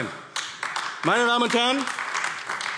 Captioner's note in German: Beifall AfD